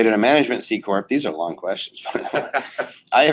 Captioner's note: laughing